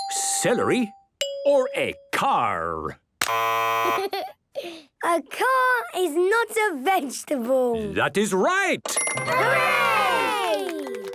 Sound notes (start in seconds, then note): 3.2 buzzes